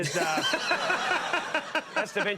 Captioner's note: audience laughs